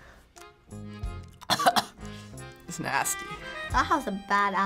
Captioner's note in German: würgt